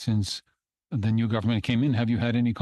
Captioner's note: speaking in French